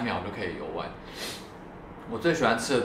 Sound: sniffle

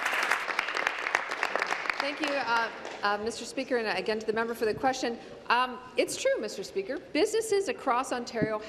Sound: applause

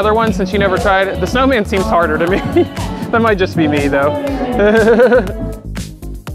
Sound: laughs

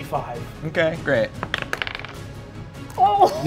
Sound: dice rolling

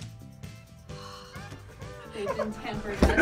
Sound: sighs

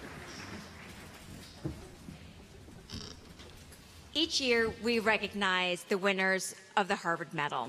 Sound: applause

